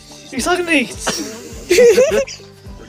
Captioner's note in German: Kichern